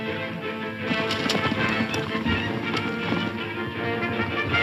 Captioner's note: horses galloping